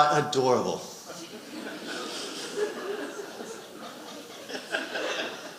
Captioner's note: audience laughing